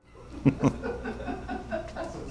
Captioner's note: laughing